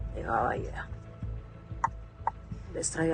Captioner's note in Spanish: Chasquido bucal